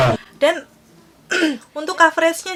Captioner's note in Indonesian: batuk